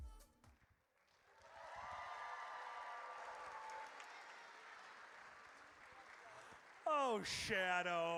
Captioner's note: audience cheering